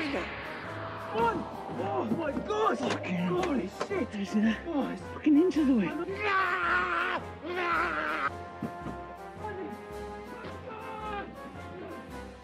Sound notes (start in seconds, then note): 6.7 yelling